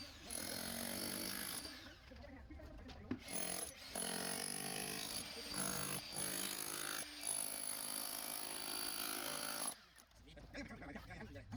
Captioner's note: jackhammer